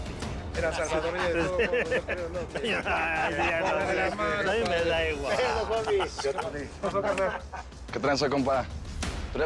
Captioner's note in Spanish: Risas y comentarios